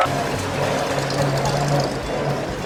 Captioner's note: engine revving